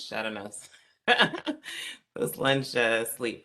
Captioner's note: laughter